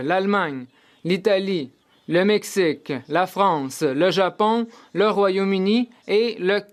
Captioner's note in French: voix de l'interprète